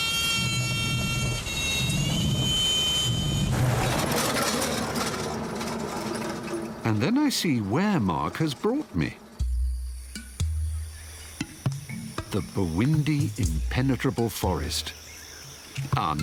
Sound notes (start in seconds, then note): 0.0 airplane landing; 3.9 car rumbling